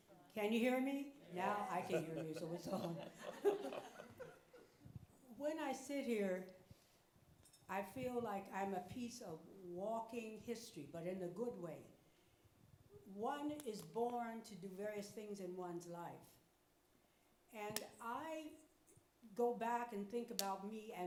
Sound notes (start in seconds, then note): 3.5 audience chuckles